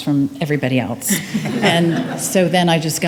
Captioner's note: attendees laughing